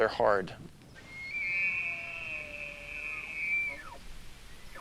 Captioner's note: elk bugles